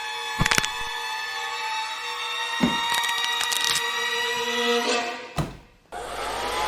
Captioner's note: sound of snapping bones as they move